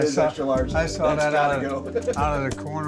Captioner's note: laughs